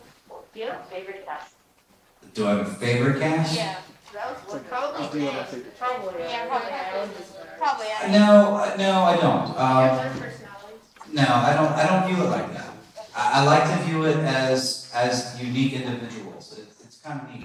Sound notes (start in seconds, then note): 4.5 indistinct chatter